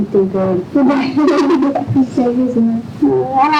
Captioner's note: laughter